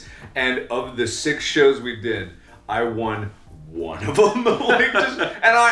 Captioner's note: laughs